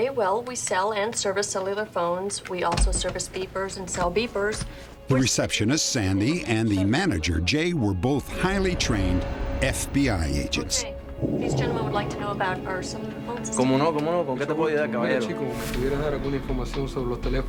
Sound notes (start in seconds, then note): 13.1 speaking spanish